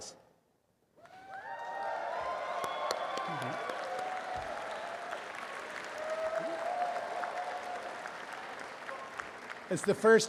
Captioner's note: applause and cheering